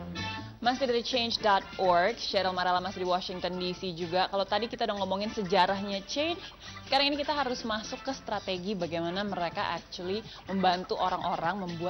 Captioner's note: non-english speech